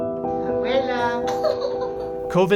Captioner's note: laughing